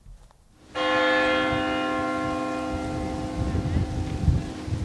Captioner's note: bell chimes